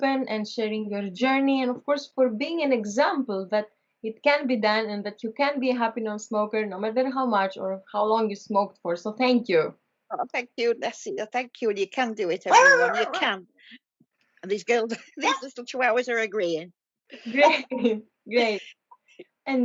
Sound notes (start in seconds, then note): 12.5 dog barking